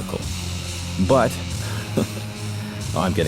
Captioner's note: chuckles